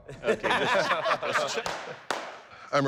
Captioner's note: laughter